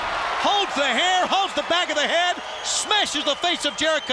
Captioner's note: crowd cheering